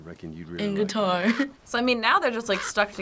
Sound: laughs

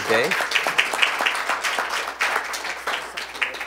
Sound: applause

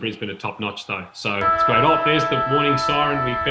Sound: siren

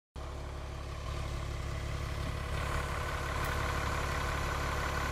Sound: bus engine idling

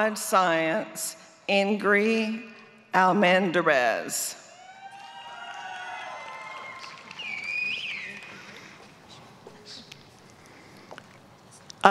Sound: applause

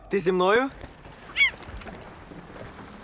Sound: laughter fades; gull squawks

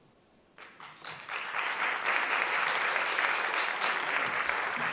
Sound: applause

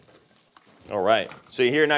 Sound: pan sizzling

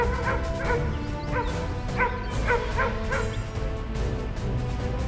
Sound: dog barking; dynamic music

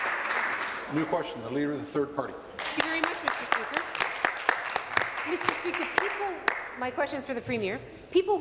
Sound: applause

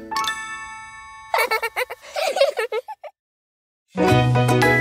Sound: children giggling; cheerful music

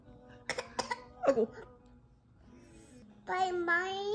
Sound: choking on his spit

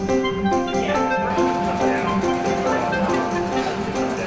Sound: distant chatter

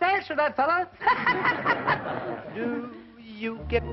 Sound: laughing

